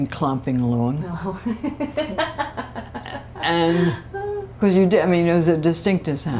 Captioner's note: laughter